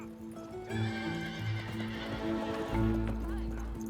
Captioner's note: whinnying